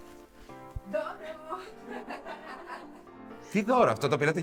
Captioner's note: laughs